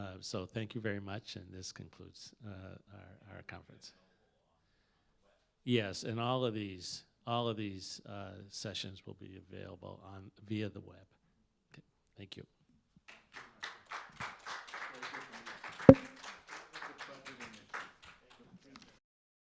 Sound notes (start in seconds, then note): 13.1 applause